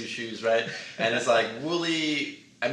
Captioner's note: laughs